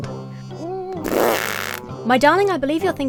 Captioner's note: blows raspberry